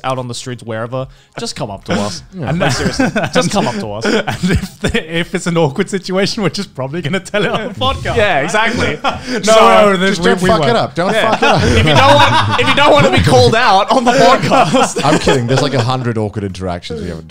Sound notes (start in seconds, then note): 9.2 men laughing; 11.0 man laughing; 15.0 laughs